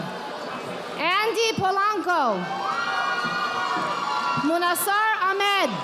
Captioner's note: audience applauding